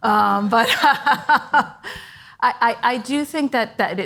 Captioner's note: laughs